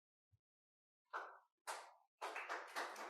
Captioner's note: applause